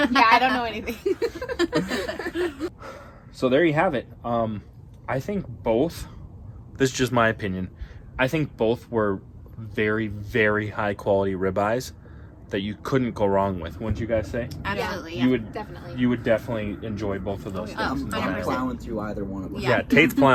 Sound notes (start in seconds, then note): 0.0 group giggling